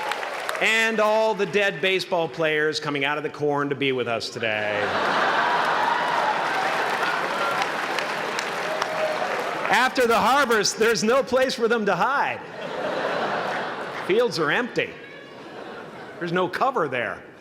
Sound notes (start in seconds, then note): 0.0 applause; 4.6 laugher and applause